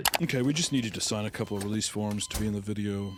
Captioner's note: heart monitor beeping